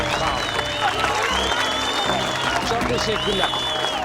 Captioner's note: they're whistling